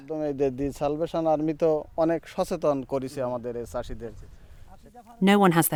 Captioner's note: foreign language